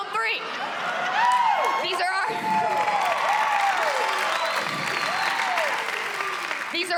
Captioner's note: cheering; cheers and applause